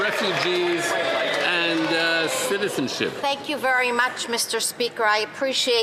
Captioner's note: some Applause